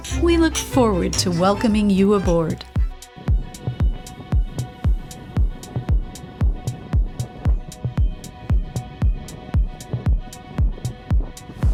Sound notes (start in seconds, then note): 2.7 upbeat music; 2.7 wind rustles